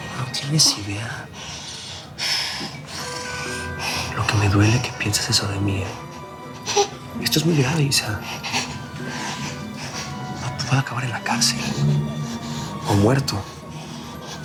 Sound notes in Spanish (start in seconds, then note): 6.6 Sollozos